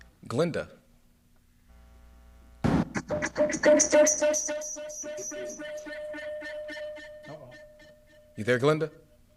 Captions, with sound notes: Glenda. [Microphone malfunction] Uh-oh. You there, Glenda?